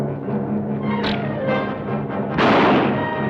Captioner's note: bow twangs; gun fires